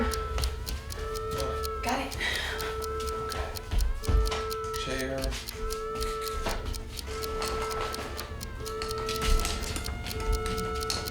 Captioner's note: sirens